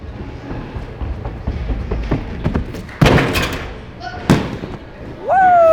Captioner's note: footsteps thumping